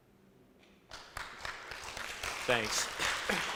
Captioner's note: audience applauds